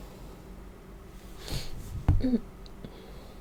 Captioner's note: cough